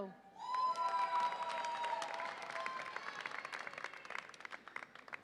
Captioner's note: audience applauds and cheers